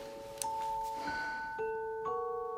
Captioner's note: sighs